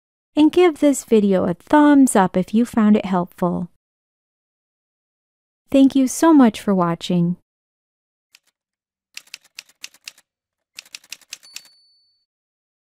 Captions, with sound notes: And give this video a thumbs-up if you found it helpful. Thank you so much for watching! [Typewriter sounds]